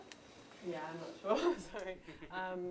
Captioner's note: laughs